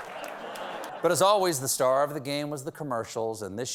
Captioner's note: laughter